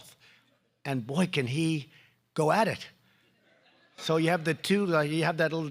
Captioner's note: laughter